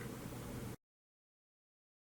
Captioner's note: silence